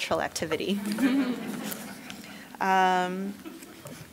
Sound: laughing

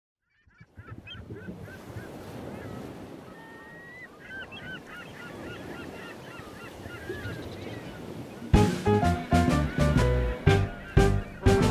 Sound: birds chirping

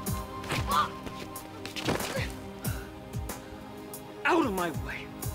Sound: pensive music; Ebony groaning

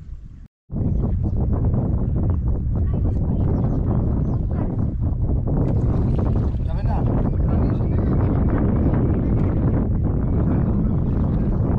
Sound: wind Noise

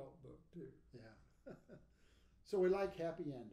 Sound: laughing

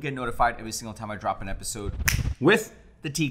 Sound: fingers snapping

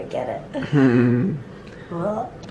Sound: both chuckle

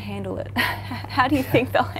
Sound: laughing

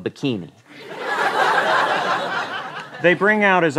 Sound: laughter

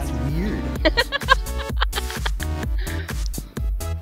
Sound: laughter

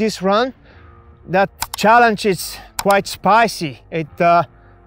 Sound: image clicks

